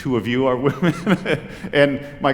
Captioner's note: laughter